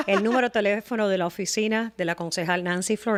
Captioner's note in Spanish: Hablando ingl\s